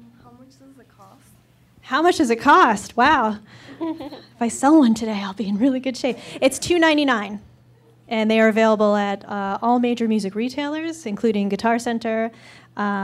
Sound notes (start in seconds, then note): 3.6 laughter